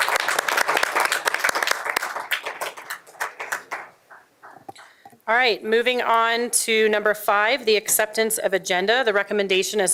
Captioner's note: applause